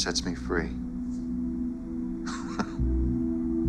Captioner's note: laughs